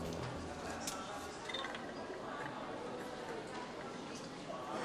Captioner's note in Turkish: Hastane ortam sesi